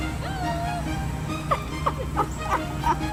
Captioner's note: laughing